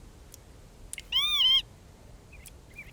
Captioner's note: bird caws